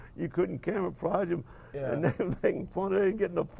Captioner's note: laughing